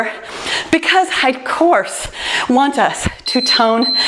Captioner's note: timer beeps